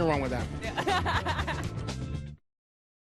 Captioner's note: laughs